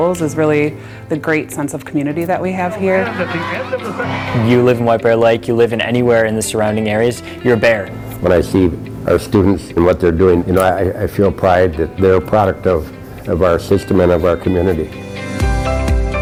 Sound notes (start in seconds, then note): 2.4 cheerleaders cheering